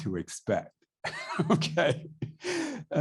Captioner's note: laughs